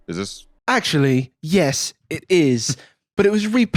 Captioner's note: British accent